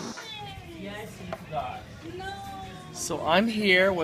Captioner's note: all chattering